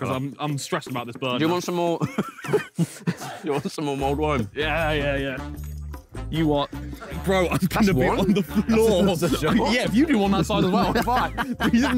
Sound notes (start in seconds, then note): 2.0 laughs